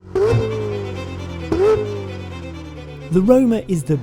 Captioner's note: classical music; car engine revving